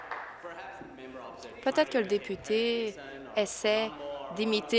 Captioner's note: applause